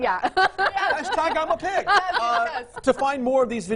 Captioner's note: laughing